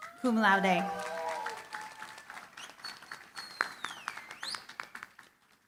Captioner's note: applause